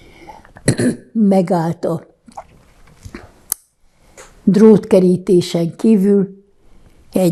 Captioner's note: clears throat